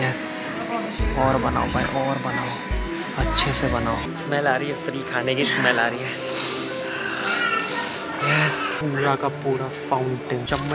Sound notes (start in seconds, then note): 7.6 sniff